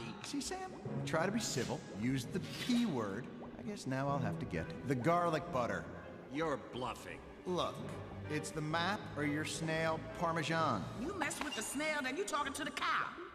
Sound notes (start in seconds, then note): none